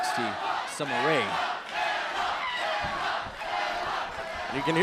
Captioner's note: crowd cheering